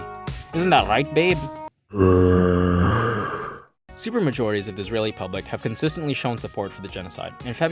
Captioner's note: zombie noise